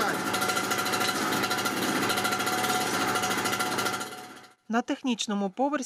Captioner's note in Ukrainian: Працює обладнання для запуску заглушки